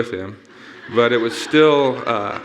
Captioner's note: audience laughing